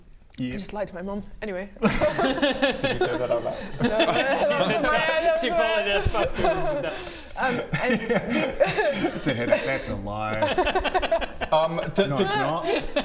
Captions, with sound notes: I just lied to my Mum! Anyway *rebellious laughter* Did you say that out loud? No! That was in my head! That was in my head! She followed her bad doings with that Um and we It's a headache-that's a lie um did No it's not